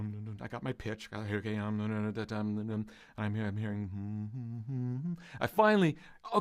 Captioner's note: humming